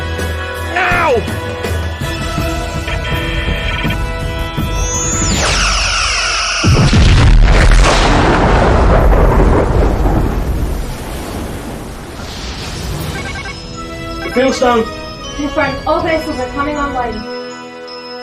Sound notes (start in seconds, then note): 6.5 explosion; 13.0 alarm